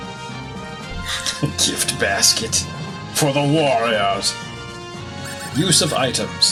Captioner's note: laughs